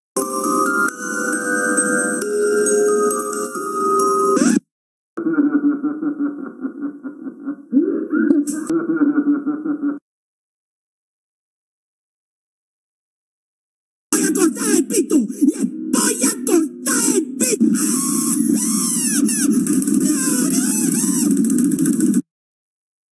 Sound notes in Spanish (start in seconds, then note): 4.4 disco rayado; 18.5 Grito de Flowey en Underpants Genocide Ending